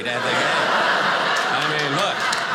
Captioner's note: audience laughing